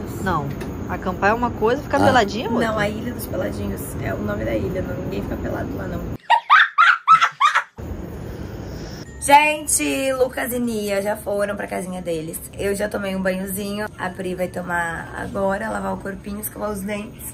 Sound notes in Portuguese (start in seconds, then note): 6.2 Risos